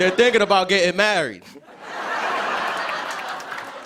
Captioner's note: laughter